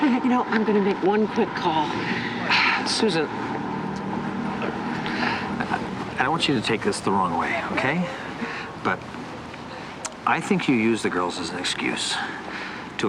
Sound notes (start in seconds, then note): 1.9 sighs